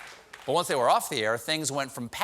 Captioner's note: cheers and applause